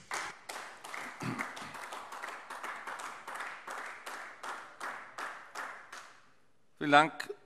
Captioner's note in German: Beifall AfD